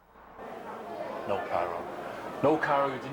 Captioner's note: crowd chatter